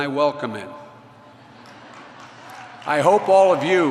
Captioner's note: laughter